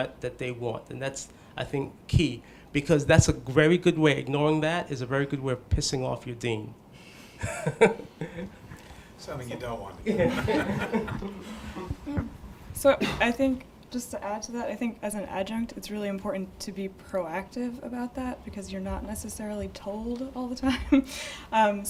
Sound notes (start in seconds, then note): 7.4 laughs; 10.0 group laughs